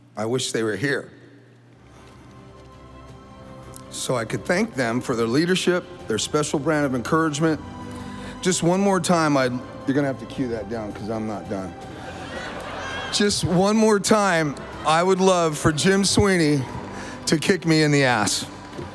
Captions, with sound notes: I wish they were here. (stately music) So I could thank them for their leadership, their special brand of encouragement, just one more time, you're gonna have to cue that down 'cause I'm not done. (audience laughing) Just one more time I would love for Jim Sweeney to kick me in the ass.